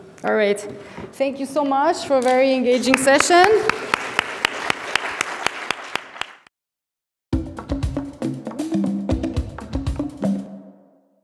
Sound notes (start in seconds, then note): 2.8 audience applaud; 7.3 upbeat percussive music